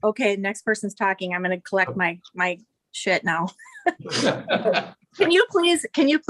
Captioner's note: audience laughter